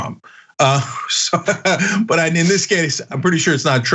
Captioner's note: laugh